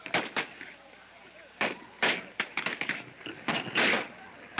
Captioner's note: firing slowing